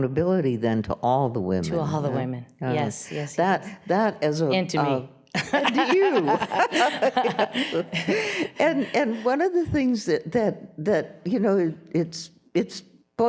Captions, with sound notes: to all the women. - To all the women, yes. - That as a-- - And to me. (laughing) - And to you. (laughs) And one of the things that is, boy, for a white woman,